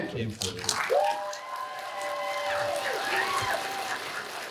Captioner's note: cheers and applause